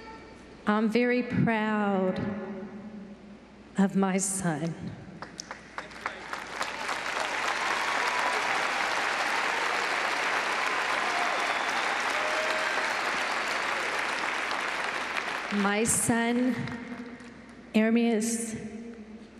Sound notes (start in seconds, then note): 5.2 applause